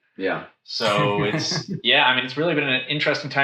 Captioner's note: laughs